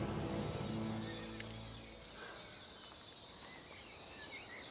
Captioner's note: birds chirping